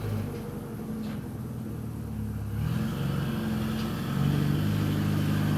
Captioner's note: engine noise